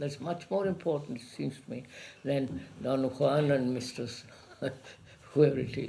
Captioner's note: laughs